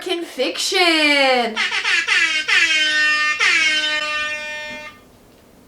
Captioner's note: air horn sounds